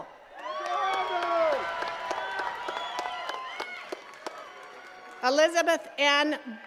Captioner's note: attendees cheering and clapping